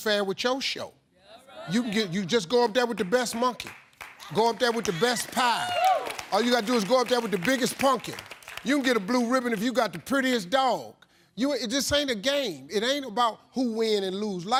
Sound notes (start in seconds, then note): 6.4 audience applauding